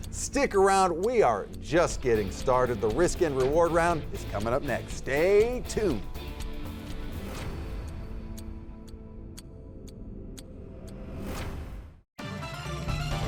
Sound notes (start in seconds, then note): 7.1 dramatic tone; 7.1 timer ticking; 12.2 upbeat music